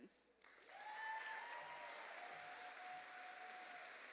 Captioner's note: cheers and applause